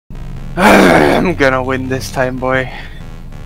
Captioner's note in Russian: злобный выдох